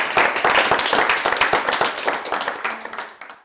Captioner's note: applause